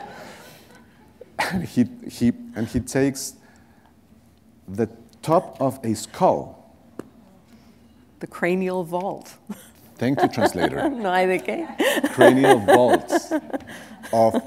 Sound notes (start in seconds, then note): 0.2 laughter; 11.1 foreign language; 12.3 laughter